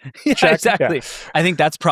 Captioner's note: laughs